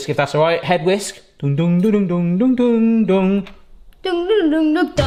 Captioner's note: hums Harry Potter theme song